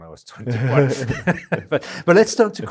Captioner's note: both laughing